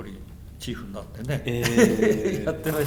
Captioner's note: laughs